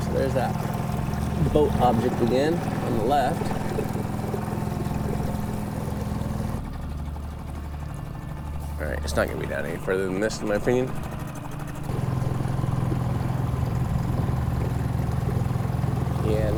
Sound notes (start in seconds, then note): 4.8 engine chugging; 12.0 engine chugging; 12.0 water sloshing